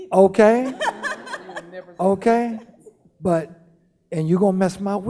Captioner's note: laughing